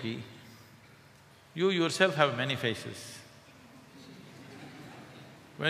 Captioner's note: laughter; 笑聲